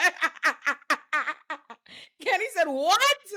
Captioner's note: laughs